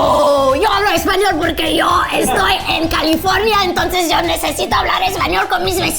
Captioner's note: speaking Spanish